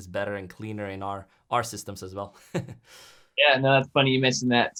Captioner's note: chuckles